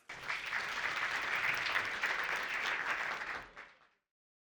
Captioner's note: group applauds